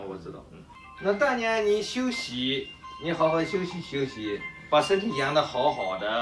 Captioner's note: speaks in Chinese language